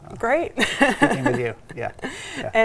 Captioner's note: laughing